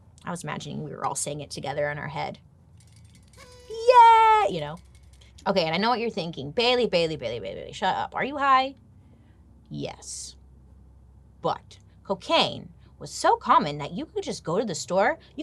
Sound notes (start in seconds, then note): 3.3 party horn trilling